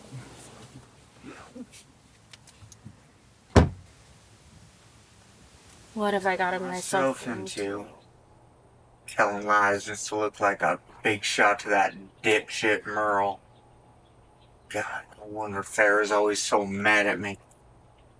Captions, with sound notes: (Marcie chuckles) (car door slams) What have I gotten myself into? - Telling lies just to look like a big shot to that dip shit, Merle. God. No wonder Farrah's always so mad at me.